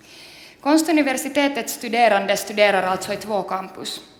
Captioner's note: speaks Swedish